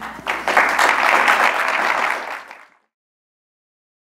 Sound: applause

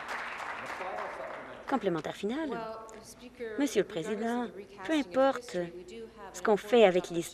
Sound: applause

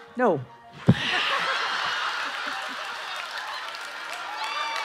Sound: audience laughing

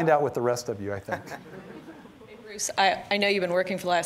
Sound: audience chuckling

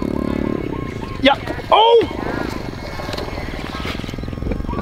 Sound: laughs

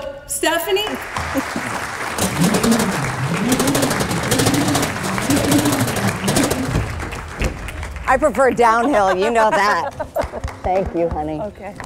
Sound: applause

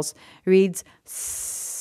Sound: hissing

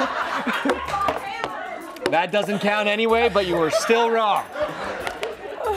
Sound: laughter

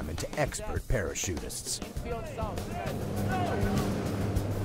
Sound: voiceover

